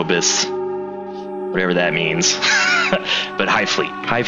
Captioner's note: laughs